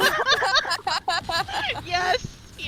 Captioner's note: laugh